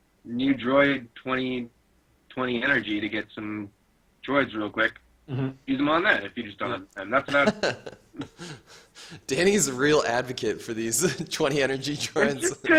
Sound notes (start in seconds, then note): 7.2 laughs